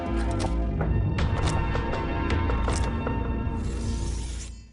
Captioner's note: dramatic music; shutter clicking; blades rubbing together